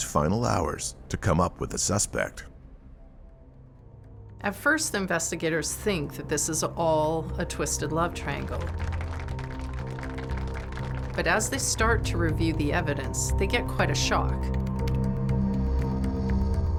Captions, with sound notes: - At first investigators think that this is all a twisted love triangle. (audience clapping) But as they start to review the evidence, they get quite a shock. Things aren't what they seem.